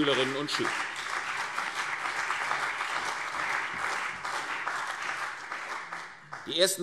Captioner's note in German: Beifall CDU und BÜNDNIS 90/DIE GRÜNEN